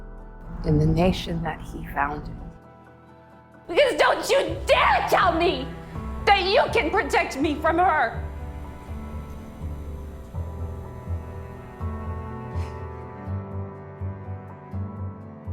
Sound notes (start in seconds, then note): 4.0 shouting